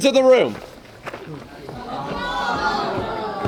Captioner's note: audience gasps